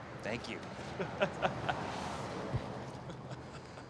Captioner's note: laughs